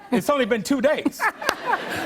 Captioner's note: laughter